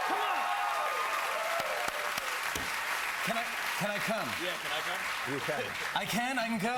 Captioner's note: cheers and applause